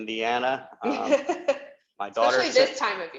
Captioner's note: laughs